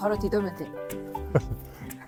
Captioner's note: laughter